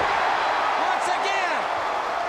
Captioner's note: crowd cheers